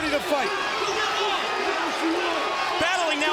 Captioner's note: crowd cheering